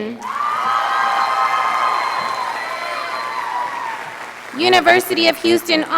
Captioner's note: audience applauding